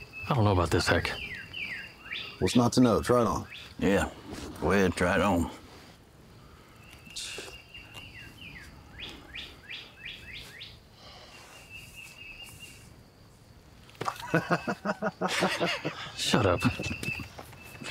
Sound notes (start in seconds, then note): 7.0 birds chirping; 14.0 laughs